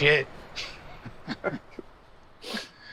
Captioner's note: Hardy and Tom laugh